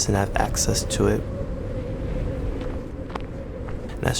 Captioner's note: wind blowing